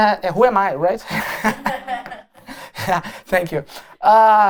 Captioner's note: laughter